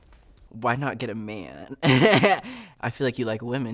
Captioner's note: chuckles